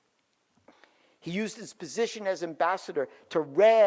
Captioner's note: none